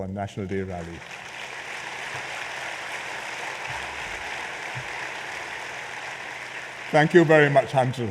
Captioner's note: applause